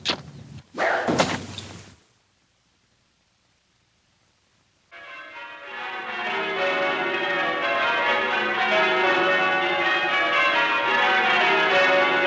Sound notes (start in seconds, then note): 0.2 bow Snaps; 4.9 bells Pealing